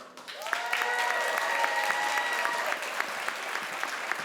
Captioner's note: crowd applauds